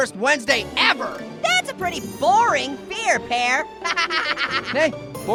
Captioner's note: laughs